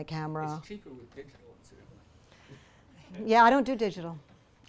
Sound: voiceover

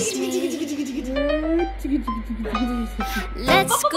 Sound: giggles

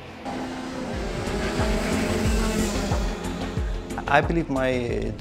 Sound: cars rev loudly

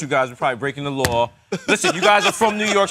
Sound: laughing

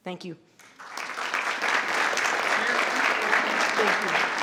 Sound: crowd clapping

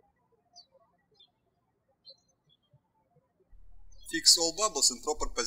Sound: birds chirping

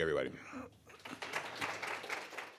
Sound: applause

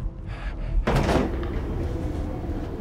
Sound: thudding

